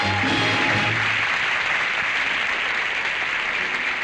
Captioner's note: applause